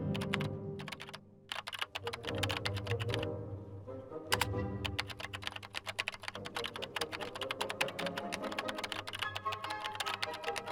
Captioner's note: keyboard typing sound